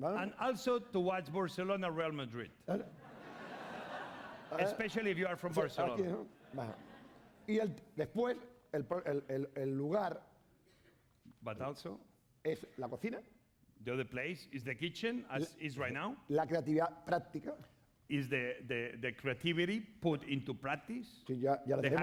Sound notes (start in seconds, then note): 0.0 speaking spanish; 3.0 laughter; 8.2 speaking spanish; 13.1 speaking spanish; 17.0 speaking spanish